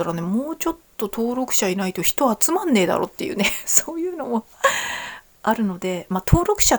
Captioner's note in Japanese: 笑い